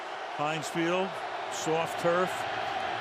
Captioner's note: cheering